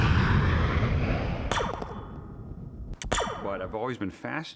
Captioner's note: jet engines whooshing; sound of laser gun firing